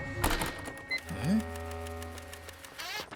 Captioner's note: beeps & Clicks